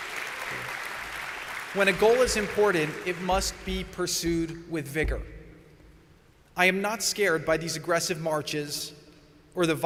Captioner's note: applause